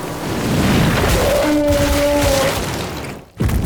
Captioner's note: loud squish; bellows